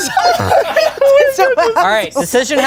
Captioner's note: everyone laughs